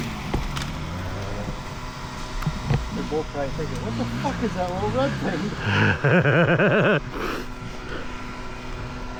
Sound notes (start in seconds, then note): 3.4 engine revving